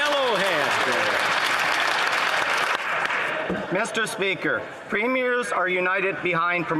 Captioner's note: some Applause